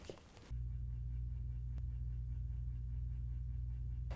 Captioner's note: humming sound